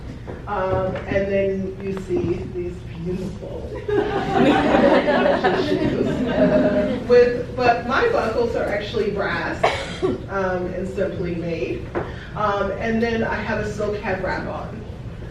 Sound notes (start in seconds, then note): 6.5 crowd laughing